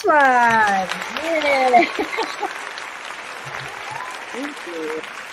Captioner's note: audience applauding